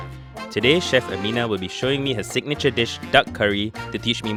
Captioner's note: voiceover